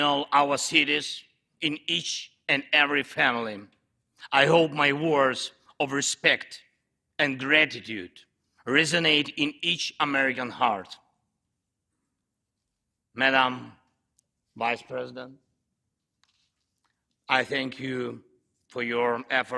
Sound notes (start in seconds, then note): none